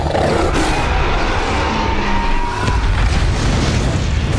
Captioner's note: roars